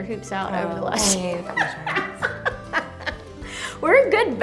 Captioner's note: laughs